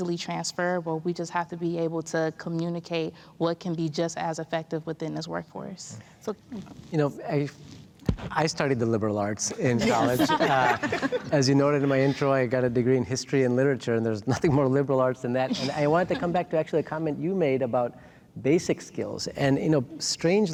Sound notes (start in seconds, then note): 9.5 all laughing